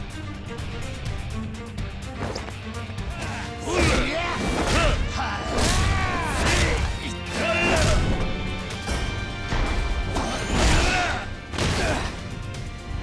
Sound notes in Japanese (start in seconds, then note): 6.0 叫び声; 6.8 うめき声